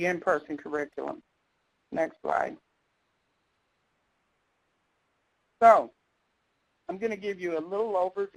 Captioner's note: pause